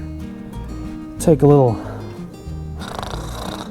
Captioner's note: snoring